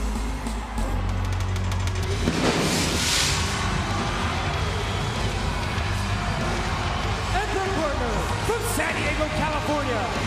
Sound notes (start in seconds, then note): 0.2 upbeat music continues; 2.1 fireworks exploding; 3.7 upbeat music continues